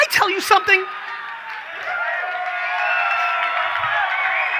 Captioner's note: audience cheers